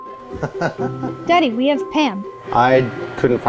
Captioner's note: laughs